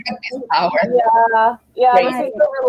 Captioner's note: chatter